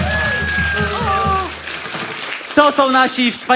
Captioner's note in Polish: oklaski publiczności